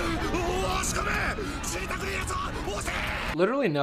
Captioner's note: screams in foreign language